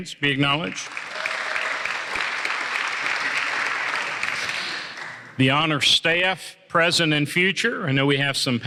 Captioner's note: applause